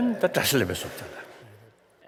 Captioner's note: foreign Language